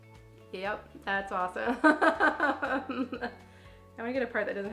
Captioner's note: laughs